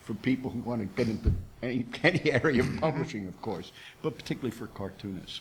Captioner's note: laughs